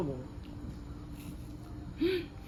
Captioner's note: crunch